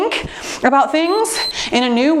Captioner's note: timer beeps